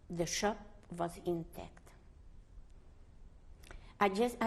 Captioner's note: pauses for 3 seconds